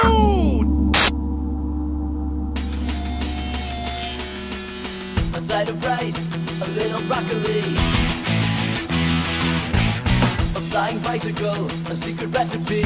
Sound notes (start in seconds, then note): 0.9 static; 2.8 guitar tuning